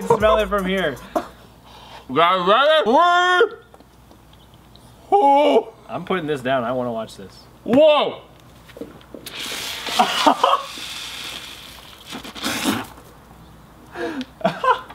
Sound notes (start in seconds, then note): 9.2 soda hissing; 10.0 laughter; 12.5 spits; 14.4 laughs